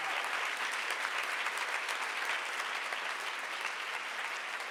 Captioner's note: audience applauds